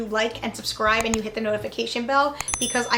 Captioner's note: bell chiming